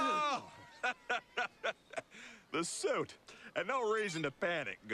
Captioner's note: laughs